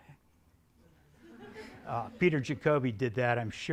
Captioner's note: students chuckling